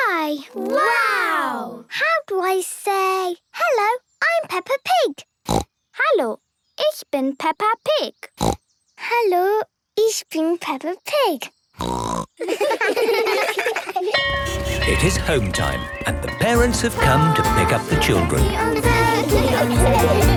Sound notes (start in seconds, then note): 5.5 snorting; 8.4 snorting; 11.8 snorting; 12.4 laughter; 14.1 bell clanging